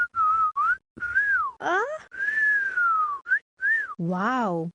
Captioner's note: whistling